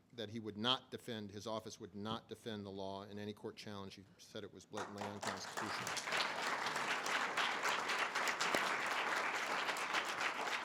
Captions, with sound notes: that he would not defend, his office would not defend the law in any court challenge, he said it was blatantly unconstitutional. (audience applause)